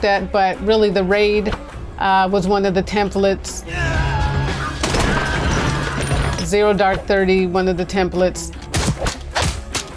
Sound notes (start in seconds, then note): 3.8 yelling